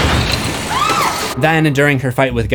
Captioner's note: screams